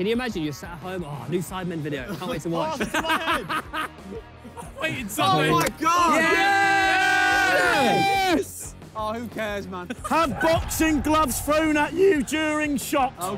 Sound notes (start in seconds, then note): 2.6 player laughs; 6.5 players cheer